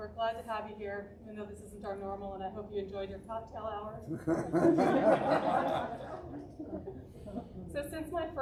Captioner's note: audience laughing